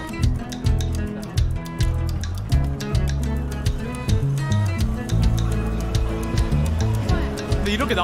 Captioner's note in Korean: 큰 도로로 나오면서 점점 커지는 주변 소리들